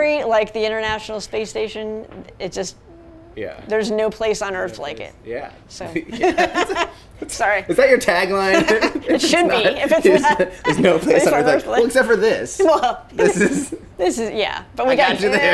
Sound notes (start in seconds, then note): 6.1 laughs